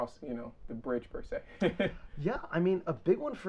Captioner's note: chuckles